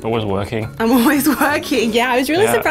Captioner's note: laughs